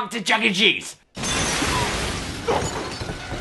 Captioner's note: glass breaking